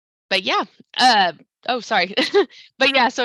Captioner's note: chuckles